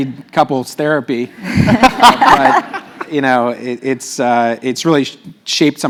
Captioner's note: laugh